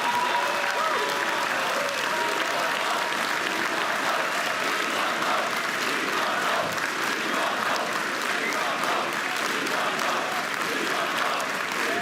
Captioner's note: applause and cheering; crowd chanting